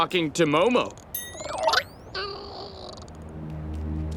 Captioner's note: chittering